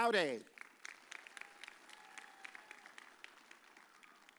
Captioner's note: audience cheers